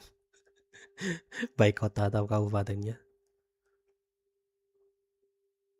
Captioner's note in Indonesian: tertawa